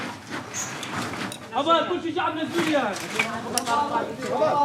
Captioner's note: Arabic spoken audio